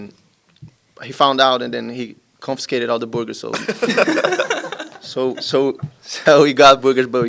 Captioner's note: laughter